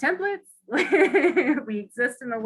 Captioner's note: laughs